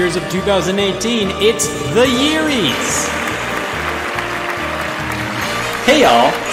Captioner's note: crowd applauding